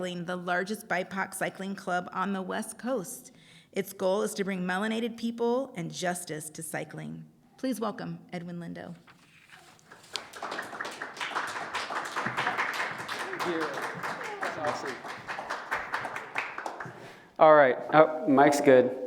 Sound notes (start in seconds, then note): 7.2 applause